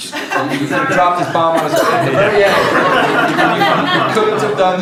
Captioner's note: laughter drowns out speaker